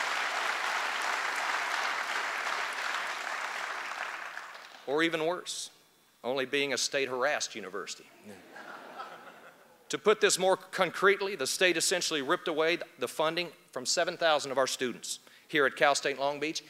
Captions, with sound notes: [ APPLAUSE ] OR EVEN WORSE. ONLY BEING A STATE-HARASSED UNIVERSITY. [ LAUGHTER ] TO PUT THIS MORE CONCRETELY, THE STATE ESSENTIALLY RIPPED AWAY THE FUNDING FROM 7,000 OF OUR STUDENTS HERE AT CAL STATE LONG BEACH,